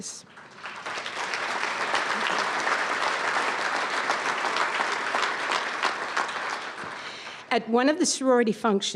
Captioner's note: audience applause